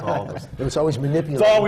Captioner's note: laughter